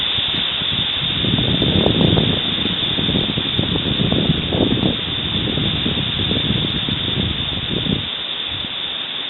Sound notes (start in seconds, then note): 0.0 wind roaring